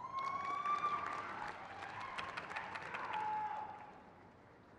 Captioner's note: crowd cheers